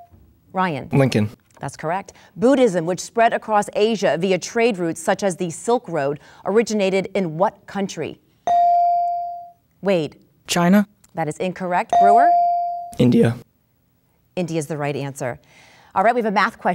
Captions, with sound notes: (dinging) - Ryan. - Lincoln. - That's correct. Buddhism which spread across Asia via trade routes such as the Silk Road, originated in what country? (dinging) - Wade. - China? - That is incorrect, Brewer? - India - India's the right answer.